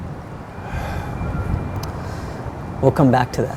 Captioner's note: Jim sighs